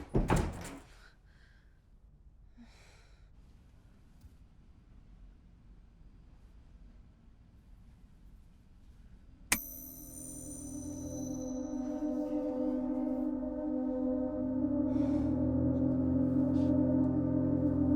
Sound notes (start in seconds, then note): 0.0 door closes; 9.2 light clicks